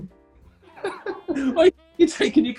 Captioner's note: giggling